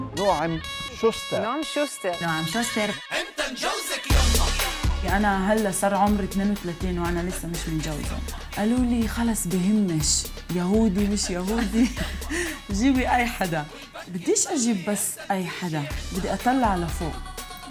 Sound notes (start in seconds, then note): 0.3 upbeat music; 5.1 speaking in foreign language